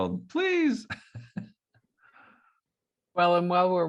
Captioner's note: laughs